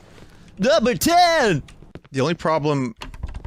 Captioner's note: goofy voice